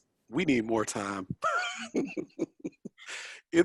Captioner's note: chuckles